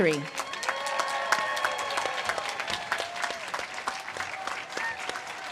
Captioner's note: audience cheers and claps